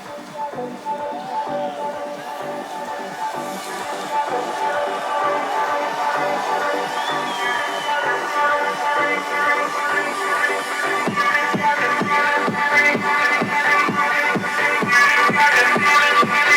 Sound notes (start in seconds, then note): 0.0 crowd cheering; 0.2 soft tech music; 5.7 crowd cheering